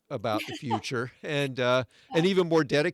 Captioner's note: laughs